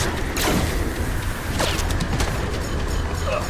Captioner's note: electrical burst